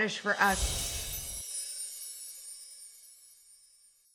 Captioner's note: logo whooshes